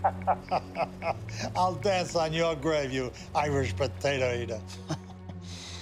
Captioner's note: laughs